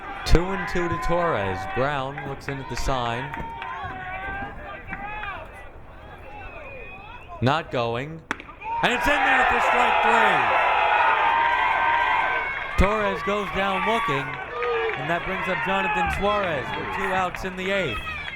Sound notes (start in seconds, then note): 10.6 crowd cheering